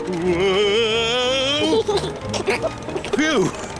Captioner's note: george giggles